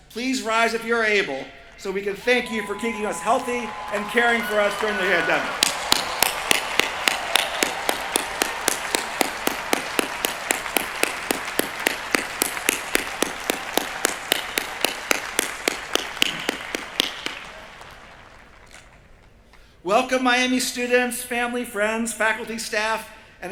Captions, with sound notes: please rise if you're able so we can thank you for keeping us healthy and caring for us during the pandemic. [APPLAUSE] Welcome, Miami students family, friends, faculty, staff,